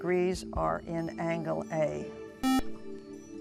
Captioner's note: buzzer